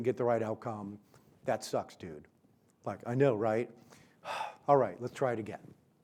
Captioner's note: sighs